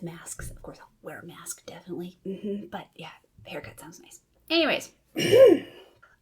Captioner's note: ahem